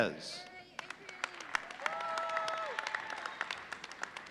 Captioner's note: audience applauding